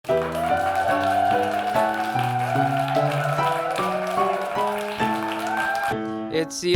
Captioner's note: audience applauding; gentle piano music